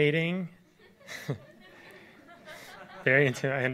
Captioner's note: audience laughs